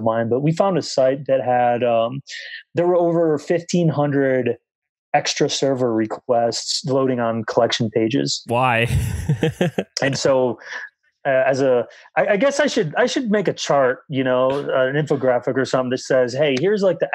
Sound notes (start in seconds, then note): 8.5 laughs